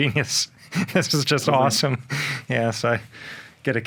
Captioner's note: laughs